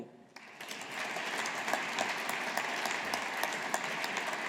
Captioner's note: audience applauding